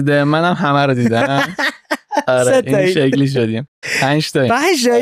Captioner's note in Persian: خنده